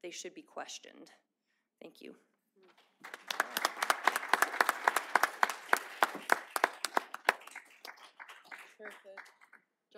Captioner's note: applause